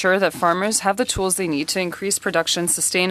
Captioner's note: speaking French